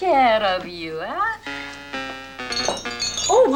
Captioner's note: tinkle